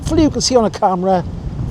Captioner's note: laughing